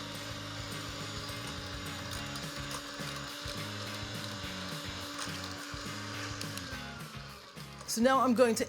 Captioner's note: beater motor runs